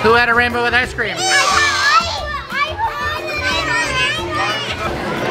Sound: children yelling

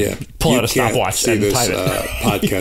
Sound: laughter

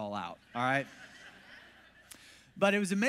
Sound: congregation laughs

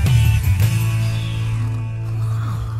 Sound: all snoring

